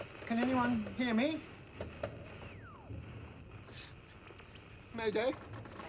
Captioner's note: radio static crackling